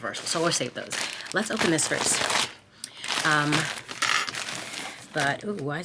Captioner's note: bag crinkling